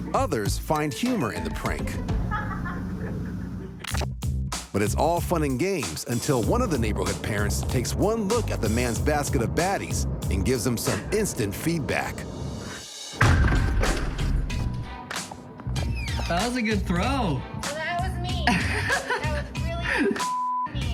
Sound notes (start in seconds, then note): 2.1 laughing; 13.2 thudding; 18.4 man laughs